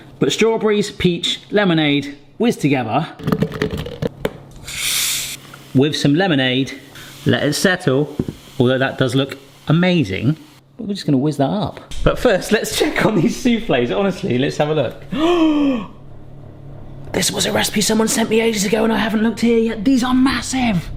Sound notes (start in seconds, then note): 3.7 fruit thuds; 4.7 bottle fizzes; 6.6 liquid fizzes; 15.1 gasps